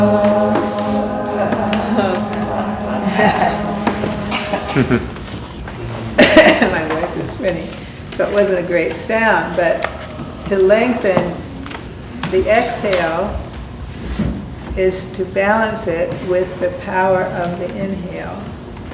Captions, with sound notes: (coughs) My voice wasn't ready, so it wasn't a great sound, but to lengthen the exhale is to balance it with the power of the inhale.